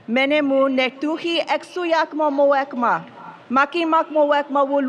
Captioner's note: speaking foreign language